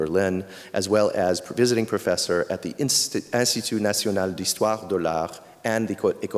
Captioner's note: speaking french